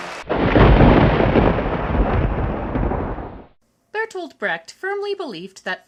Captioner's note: thunder